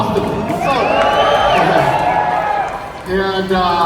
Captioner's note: audience cheering